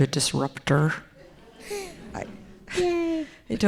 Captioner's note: audience laughing